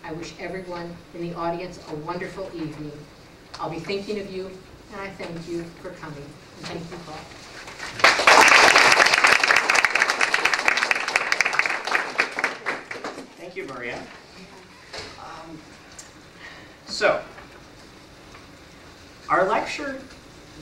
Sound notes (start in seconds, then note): 7.8 applause